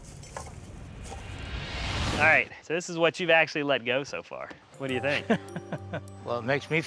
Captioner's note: laugh